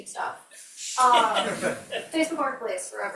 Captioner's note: crowd members laughing